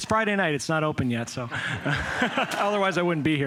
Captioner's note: laughter